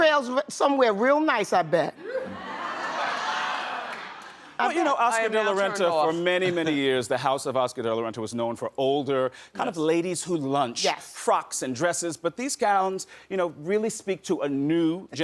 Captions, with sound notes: That trails somewhere real nice, I bet. (audience laughs) I am now turned off. Oscar de la Renta, for many, many years, the House of Oscar de la Renta was known for older, kind of ladies who'd lunch, frocks and dresses. But these gowns really speak to a new